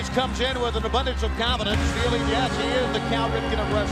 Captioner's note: crowd cheering